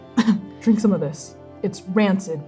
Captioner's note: coughing